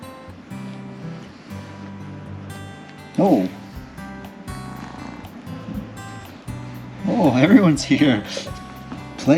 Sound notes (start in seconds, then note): 3.8 cat purring; 8.6 laughing